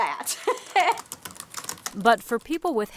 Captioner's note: laughs